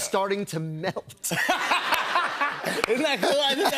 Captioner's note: laughter